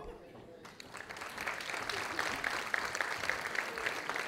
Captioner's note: audience applauding